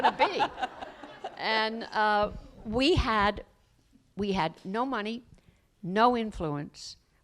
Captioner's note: laughter